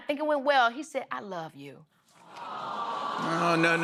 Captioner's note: audience awws